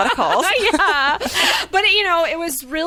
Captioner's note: laughing